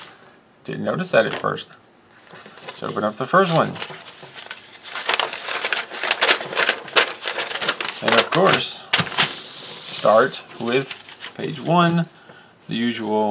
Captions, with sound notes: Didn't notice that at first. Let's open up the first one. [paper rustling] And of course... start with page one